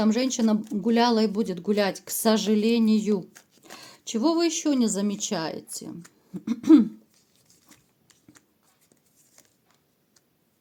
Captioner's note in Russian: откашливается